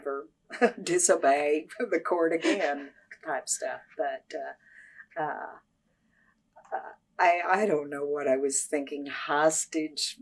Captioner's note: laughs